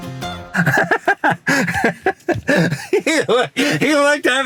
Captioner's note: man laughing